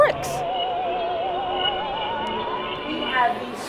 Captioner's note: spooky sounds